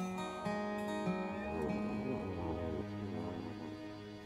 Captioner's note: Richard snoring